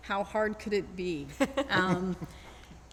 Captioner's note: laughing